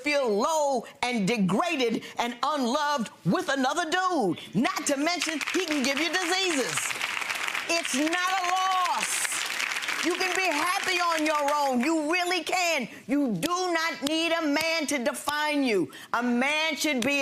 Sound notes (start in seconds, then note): 10.0 clapping